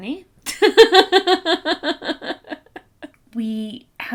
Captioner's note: laughs